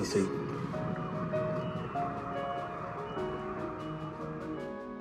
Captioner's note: sirens wailing